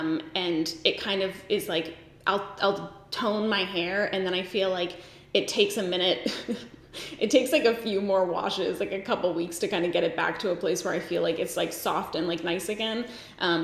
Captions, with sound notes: and it kind of is like I'll tone my hair and then I feel like it takes a minute, (giggles) it takes like a few more washes, like a couple weeks to kind of get it back to a place where I feel like it's like soft and like nice again